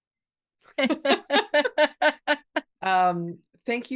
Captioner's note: both laughing